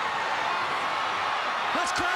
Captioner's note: crowd cheering